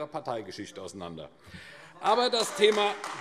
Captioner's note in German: Beifall AfD - Zurufe DIE LINKE